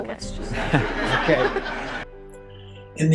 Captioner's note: laughter